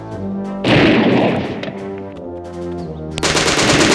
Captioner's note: gunshot bangs; gunfire rattling